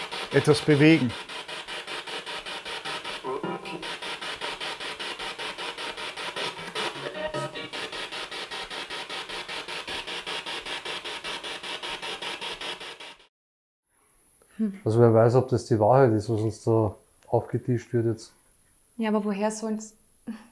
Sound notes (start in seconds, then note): 2.8 sound of the Spirit Box in the background